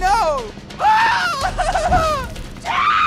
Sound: shrieking; cries

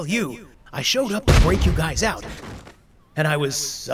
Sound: fade into echoey flashback

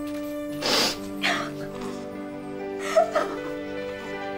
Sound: cries

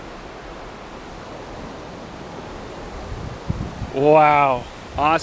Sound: waves crashing

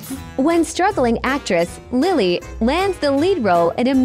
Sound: AI Voice

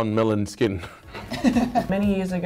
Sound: both laughing

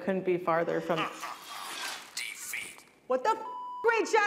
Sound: laughter

